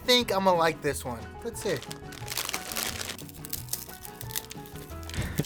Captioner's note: bag rustles